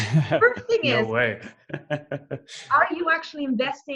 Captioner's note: laughs